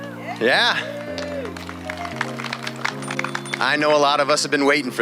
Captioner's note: people cheering